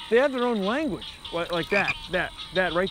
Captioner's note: croaking continues